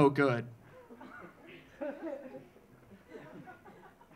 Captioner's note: audience laughing